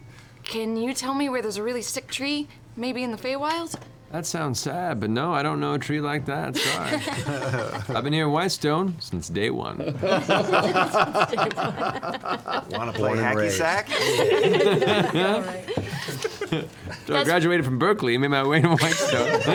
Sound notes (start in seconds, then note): 9.8 laughter; 18.6 laughter